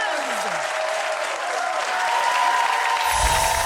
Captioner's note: applause